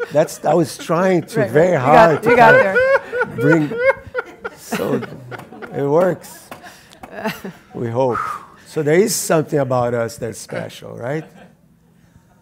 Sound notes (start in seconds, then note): 1.8 Jaron laughs hysterically